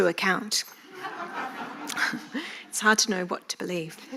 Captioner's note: audience laughing